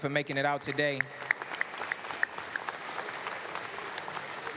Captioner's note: applause